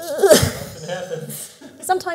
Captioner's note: laughs